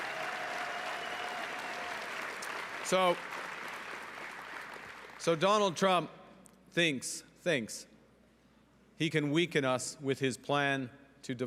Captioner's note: cheering and Applause